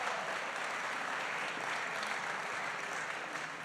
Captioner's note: applause